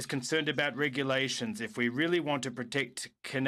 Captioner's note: speaking in french